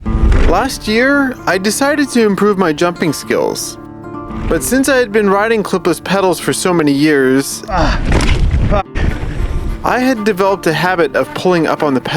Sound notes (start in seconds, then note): 0.0 upbeat music; 7.6 groans